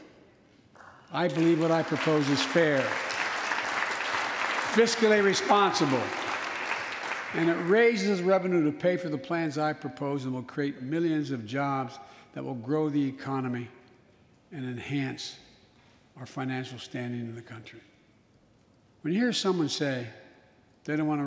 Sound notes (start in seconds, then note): 4.1 applause